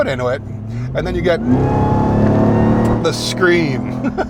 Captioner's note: engine whirring; laughing